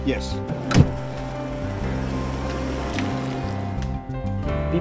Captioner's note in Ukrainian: Звук машини, що від'їжджає